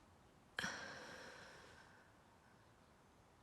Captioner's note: exhales